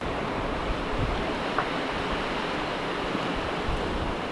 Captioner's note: wind howling